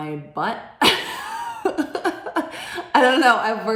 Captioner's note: laughing